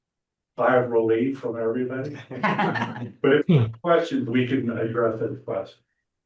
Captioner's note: laughs